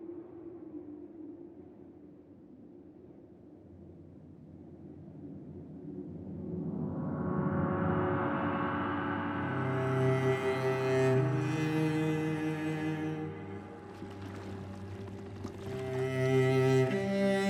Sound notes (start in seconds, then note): 6.7 pensive music; 6.7 water sloshing